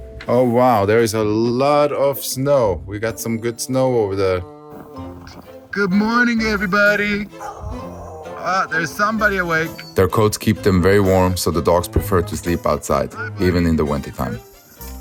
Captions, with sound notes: Oh, wow. There is a lot of snow. We've got some good snow over there. Good morning, everybody. (A DOG HOWLS) Ah, there's somebody awake. Their coats keep them very warm. So the dogs prefer to sleep outside, even in the wintertime.